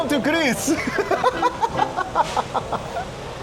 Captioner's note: laughing